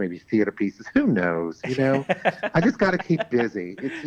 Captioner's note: laughs